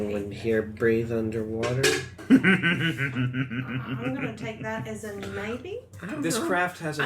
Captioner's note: laughs